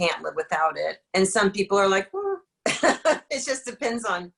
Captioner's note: laughs